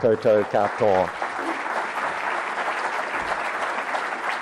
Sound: applause

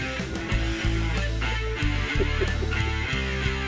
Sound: laughs

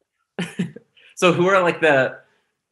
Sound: laughs

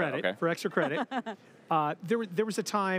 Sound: laughs

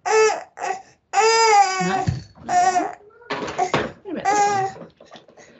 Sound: baby cries

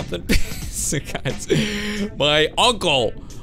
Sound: chuckle

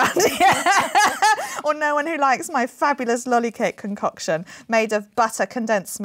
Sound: laughs

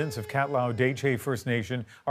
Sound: sirens

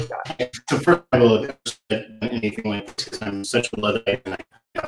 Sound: sound distortion

